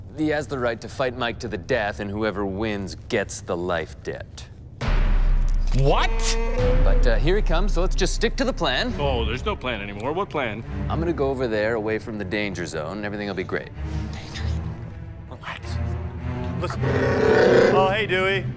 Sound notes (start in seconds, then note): 16.7 wookie roar